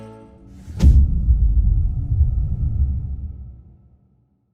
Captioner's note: dramatic sound